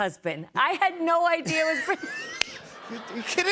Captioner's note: laughter